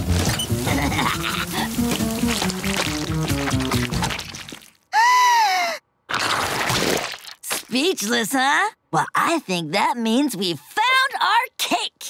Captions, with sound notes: [laughing] [gasping] Speechless, huh? Well, I think that means we've found our cake.